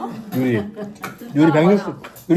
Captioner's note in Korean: 웃음